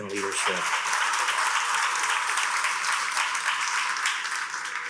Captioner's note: attendees applauding